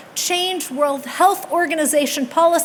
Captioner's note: none